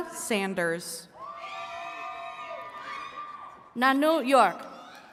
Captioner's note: attendees cheering